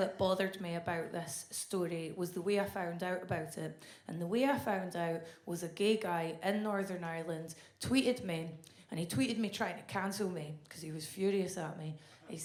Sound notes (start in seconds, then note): none